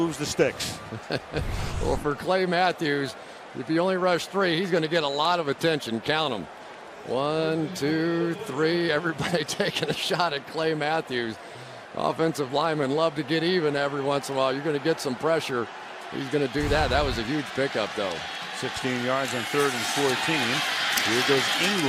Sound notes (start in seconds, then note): 0.8 laughs